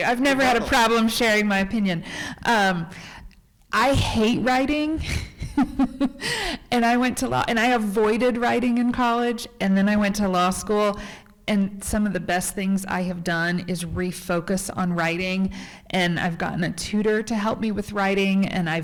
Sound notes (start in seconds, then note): 5.0 laughs